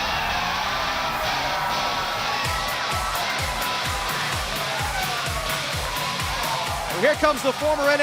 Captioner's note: cheers & applause